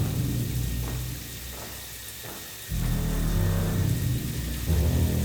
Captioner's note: feet stepping